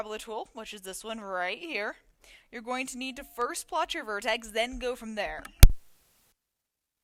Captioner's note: mic clunk